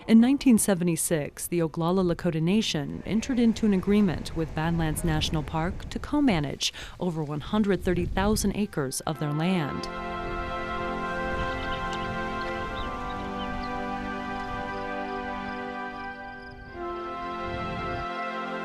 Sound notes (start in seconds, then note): 9.7 soft music; 11.7 birds chirping; 14.7 crickets chirping